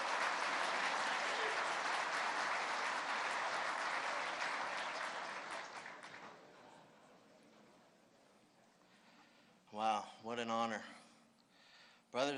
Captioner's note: applause